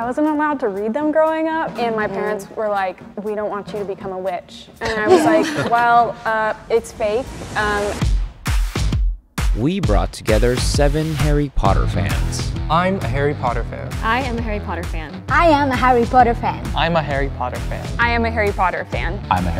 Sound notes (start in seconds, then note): 4.8 group laughs; 8.6 upbeat electronic music plays